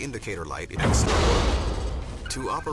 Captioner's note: loud explosion